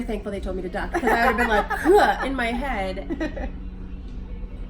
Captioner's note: laughs